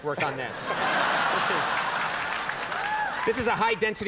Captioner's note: audience applause